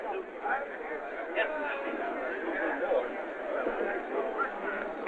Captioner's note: chatter